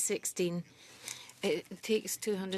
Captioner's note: speaking French